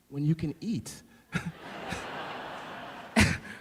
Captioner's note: laughing